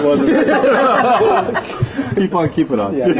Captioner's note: laughter